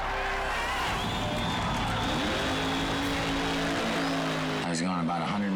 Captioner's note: engine rumbling